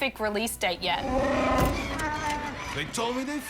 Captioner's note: chewbacca growls